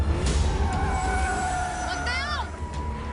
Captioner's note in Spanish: Chirrido de gomas